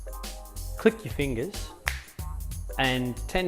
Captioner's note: snaps fingers